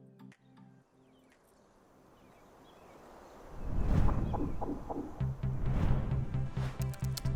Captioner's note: birds tweeting; screen whooshing